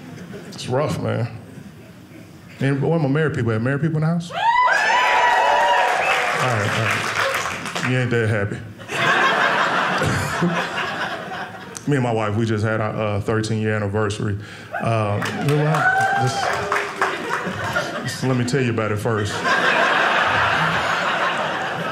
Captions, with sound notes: It's rough, man. Man, where the married people at? Are there married people in the house? (audience cheering) All right, all right, you ain't that happy. (audience laughing) Me and my wife, we just had our 13-year anniversary. Yeah, just let me tell you about it first. (audience laughing)